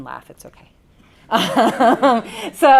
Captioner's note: audience & presenter laugh